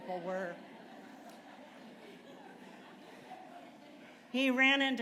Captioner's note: laughter